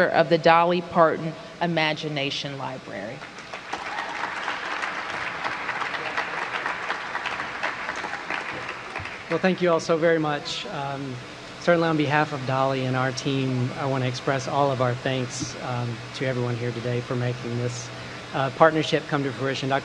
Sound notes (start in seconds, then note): 5.9 applause